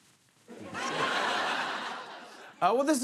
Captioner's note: laughter